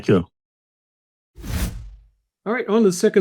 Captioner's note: graphics whooshing